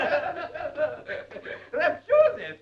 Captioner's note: laughing